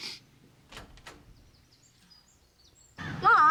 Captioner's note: door opens